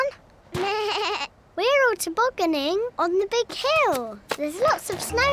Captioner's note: bleats; laughs